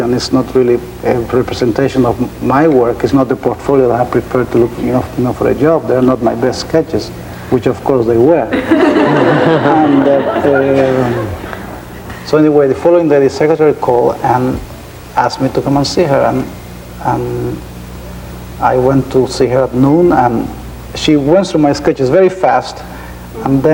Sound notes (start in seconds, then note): 8.5 laughing